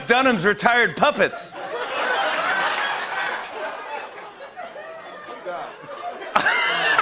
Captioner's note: laughter and applause